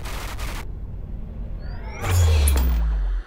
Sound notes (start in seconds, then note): 1.6 static beeps